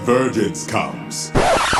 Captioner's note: record Scratch